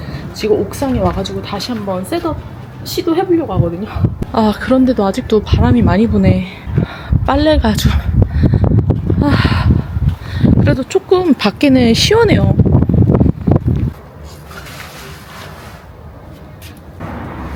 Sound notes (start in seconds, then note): 9.3 sigh